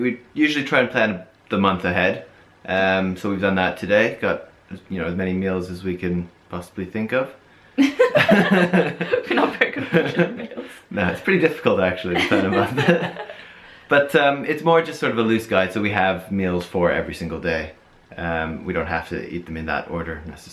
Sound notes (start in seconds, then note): 7.8 laughing